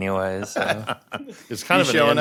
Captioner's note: laughter